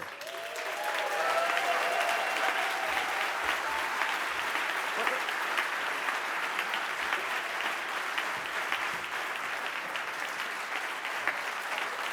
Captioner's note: cheers and applause